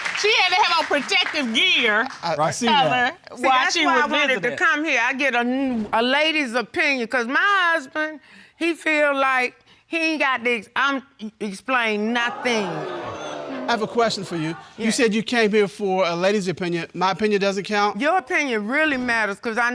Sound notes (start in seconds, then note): 12.2 audience exclaiming